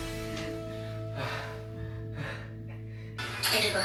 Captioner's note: heavy breathing